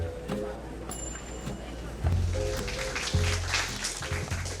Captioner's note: applause